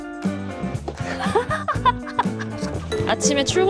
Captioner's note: laughter; cheerful music